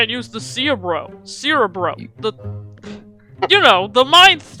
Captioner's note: scoffs; chuckles